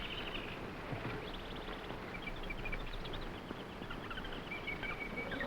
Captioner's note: jungle animals chattering